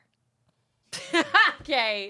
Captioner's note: laughs